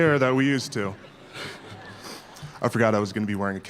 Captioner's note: laughter